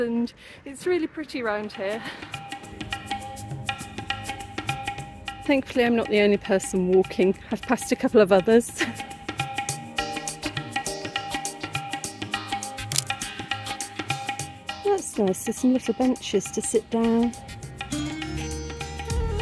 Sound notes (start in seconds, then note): 3.0 upbeat drumming music; 9.0 laughing